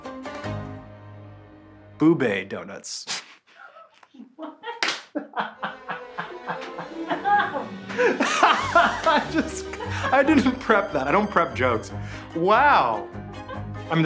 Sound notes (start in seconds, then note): 3.5 laughs; 3.5 snickers